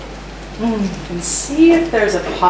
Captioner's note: tapping fingers